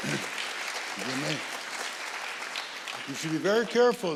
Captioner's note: audience applauding